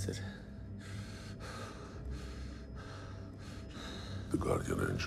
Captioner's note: pants